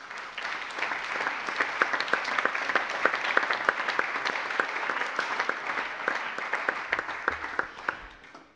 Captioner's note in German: Allgemeiner Beifall